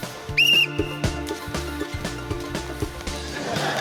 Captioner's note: blows whistle; laughter